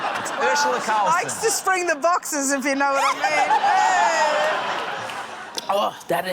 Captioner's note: laughter